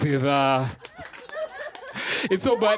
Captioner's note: laughter